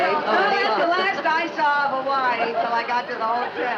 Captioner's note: guests Muttering